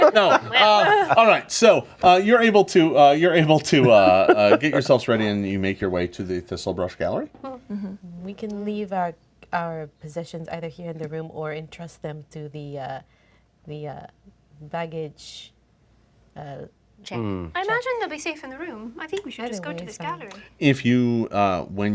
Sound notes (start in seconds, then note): 0.0 laughing; 7.7 hums of agreement